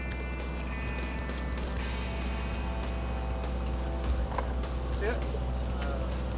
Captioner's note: boat motor rumbles